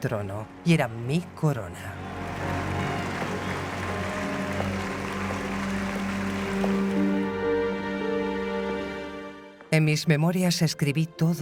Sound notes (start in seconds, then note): 2.1 bells ringing; 6.7 dramatic music